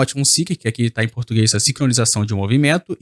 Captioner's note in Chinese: 葡萄牙语